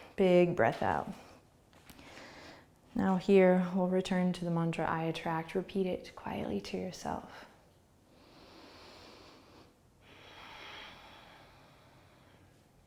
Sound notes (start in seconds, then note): 7.7 inhaling and exhaling